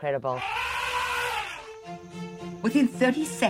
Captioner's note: elephant trumpeting